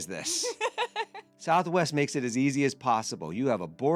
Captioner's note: laughing